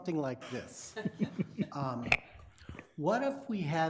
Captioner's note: people laughing